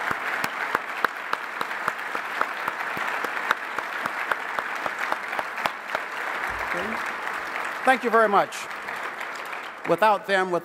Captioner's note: applause